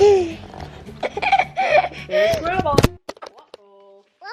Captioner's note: laughs